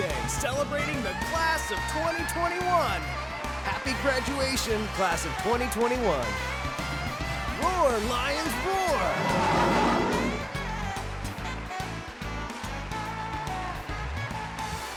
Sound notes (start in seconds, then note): 9.0 lion roaring; 11.0 audience cheers and applauds